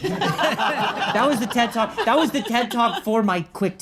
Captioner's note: audience laughing